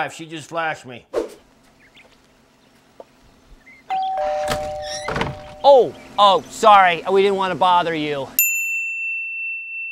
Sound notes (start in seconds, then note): 3.9 doorbell rings